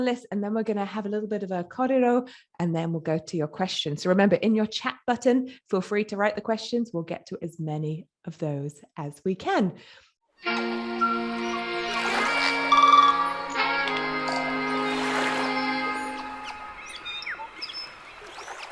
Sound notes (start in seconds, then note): 10.4 relaxed jazz music; 12.4 birds chirping; 14.7 waves crashing